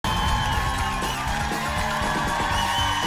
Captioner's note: applause